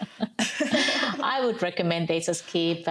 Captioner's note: laughing